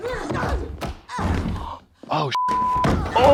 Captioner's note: punches whump